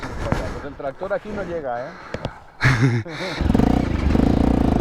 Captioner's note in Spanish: risas